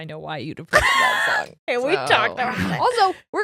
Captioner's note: laughing